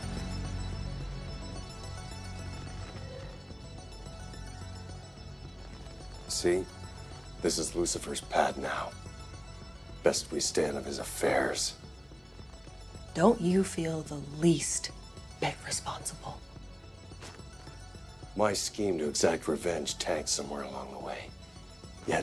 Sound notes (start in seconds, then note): 2.3 leather creaks